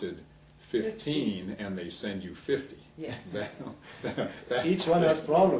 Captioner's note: he he